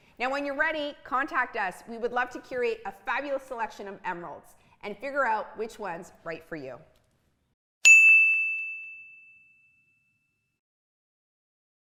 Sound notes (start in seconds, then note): 7.8 logo ping